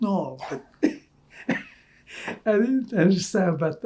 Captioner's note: laughing